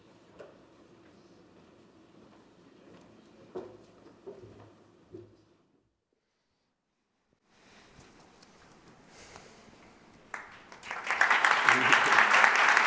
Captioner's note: applause